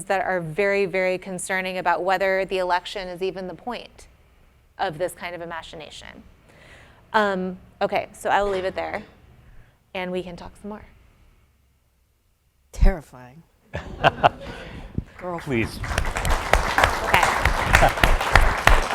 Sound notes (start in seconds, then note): 13.7 laughs; 15.1 applause